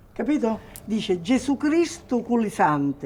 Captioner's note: speaking in foreign language